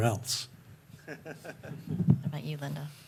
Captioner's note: chuckles